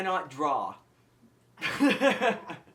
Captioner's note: giggle